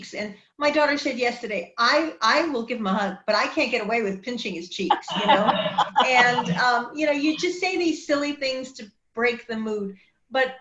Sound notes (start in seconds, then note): 4.9 woman laughs